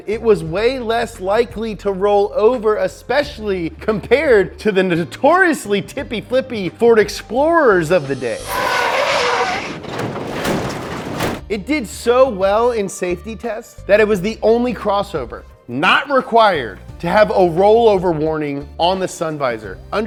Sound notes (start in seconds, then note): 7.7 tires screeching